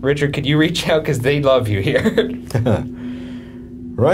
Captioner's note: chuckling